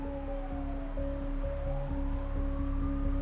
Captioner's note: sirens wail; suspenseful music